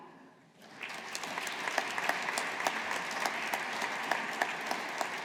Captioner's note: audience applauding